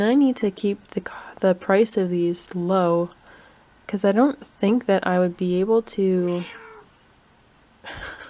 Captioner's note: meow